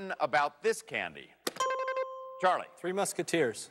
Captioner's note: dings